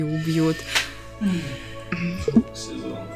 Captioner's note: sigh